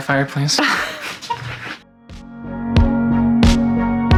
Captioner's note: laughing; upbeat music